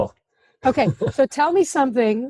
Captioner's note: laughs